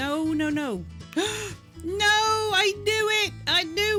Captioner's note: gasp